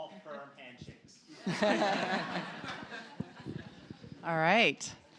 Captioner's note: laughter